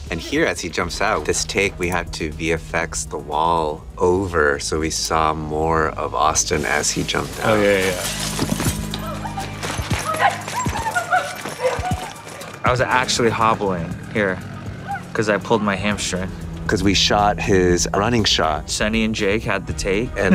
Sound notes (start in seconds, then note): 9.4 glass shatters; 10.5 women shrieking